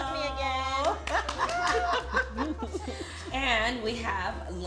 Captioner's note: laughter